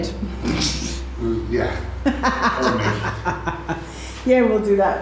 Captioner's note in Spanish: Risas